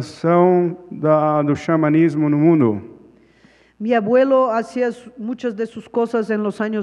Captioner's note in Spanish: Ponente habla en portugués